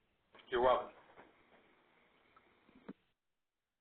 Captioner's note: voiceover